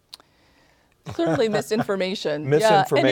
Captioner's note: laughter